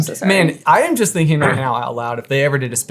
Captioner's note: clearing his throat